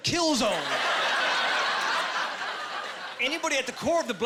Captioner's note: laughing